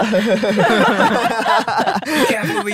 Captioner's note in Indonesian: tertawa